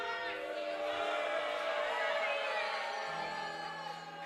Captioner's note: crowd booing